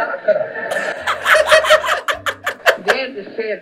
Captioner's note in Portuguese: risos